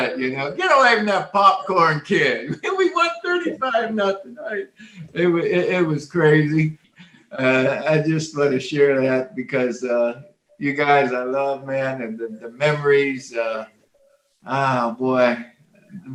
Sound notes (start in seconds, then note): 4.5 chuckling